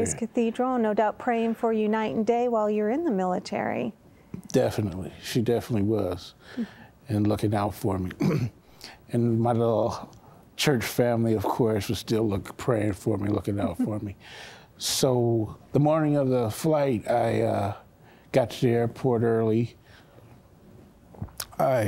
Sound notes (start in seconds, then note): 8.2 clears throat; 15.3 giggling